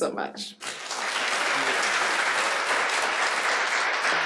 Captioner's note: applause